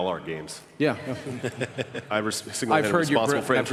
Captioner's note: laughter